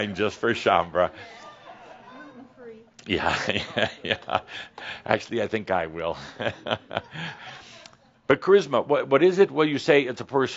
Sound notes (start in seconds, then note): 3.0 some chuckles and someone says “Gluten free”; 6.1 chuckles